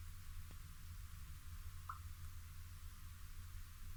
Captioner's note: pop